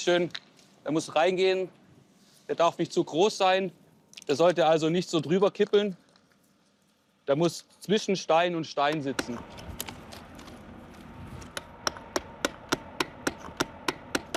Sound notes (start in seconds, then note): 8.9 distant vehicle hum